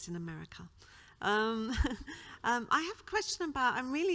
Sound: laughs

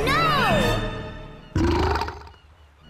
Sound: burps

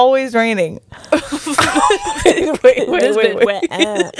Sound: panel laughing

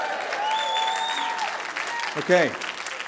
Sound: applause

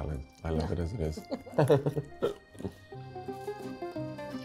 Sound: both laughing

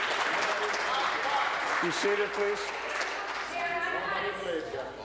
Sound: applause

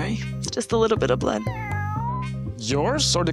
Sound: cat's meow

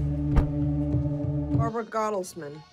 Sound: suspenseful music continues; car door slams

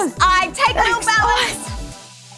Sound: laughing

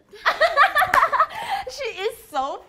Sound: laughing

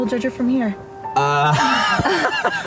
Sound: laughs; lets out air

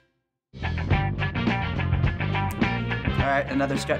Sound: upbeat funk music; snapping fingers

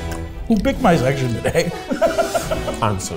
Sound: laughing

